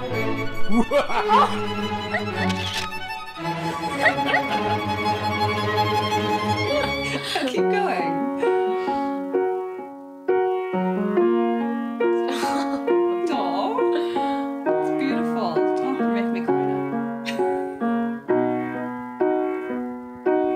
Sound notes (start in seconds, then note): 0.7 man laughs; 2.4 camera shutter snaps; 2.4 girl laughs; 8.4 pleasant piano music; 12.2 girl giggles; 17.2 pleasant piano music